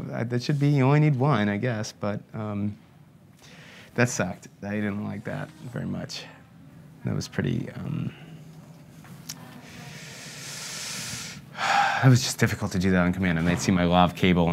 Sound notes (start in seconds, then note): 9.7 sighs